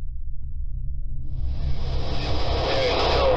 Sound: eerie tone; radio static hisses

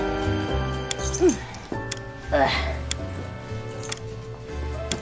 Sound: grunting

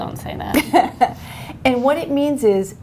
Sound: laughter

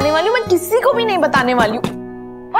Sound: door knocks

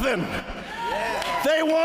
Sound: applause

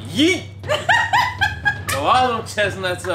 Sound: laughing

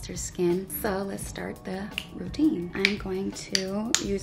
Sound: snaps

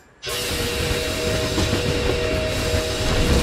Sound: train whistle

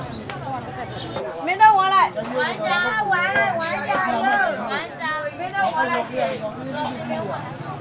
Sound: waitresses shouting for the orders

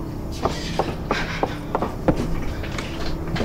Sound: footsteps

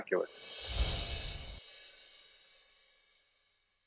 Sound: chimes

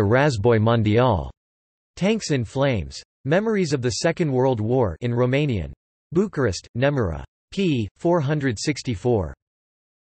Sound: in Romanian

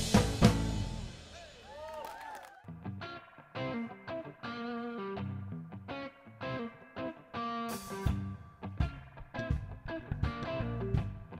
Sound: applause

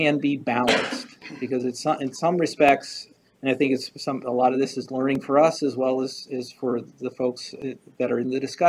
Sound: stutters

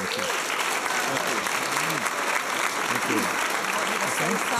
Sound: applause

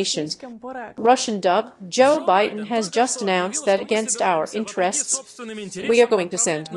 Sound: Russian dub

